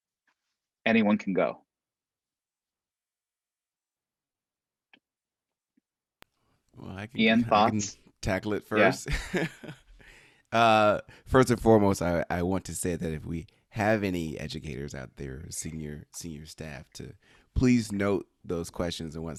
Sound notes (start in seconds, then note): 8.8 chuckles